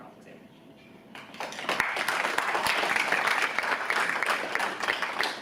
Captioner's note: audience applauds